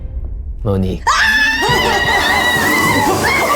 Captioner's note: cheering